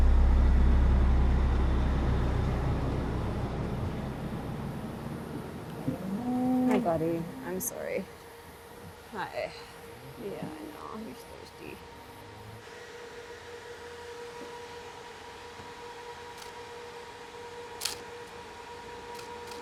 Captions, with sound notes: (truck engine roaring) (cow moos) Hi, buddy, I'm sorry. Hi, yeah I know, you're just thirsty. (camera clicking)